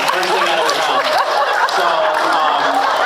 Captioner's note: laughs, applauds